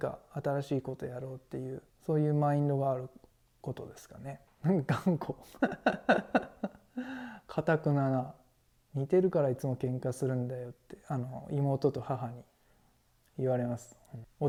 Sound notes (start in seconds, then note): 5.4 laugh